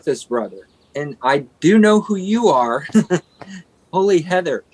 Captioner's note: laughs